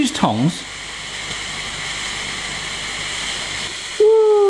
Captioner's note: steamer hisses